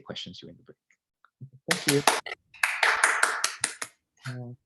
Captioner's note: applause